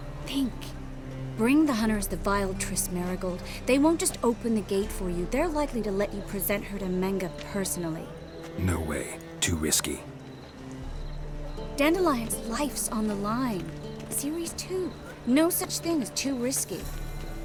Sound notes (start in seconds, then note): none